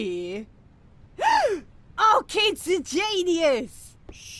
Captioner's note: gasp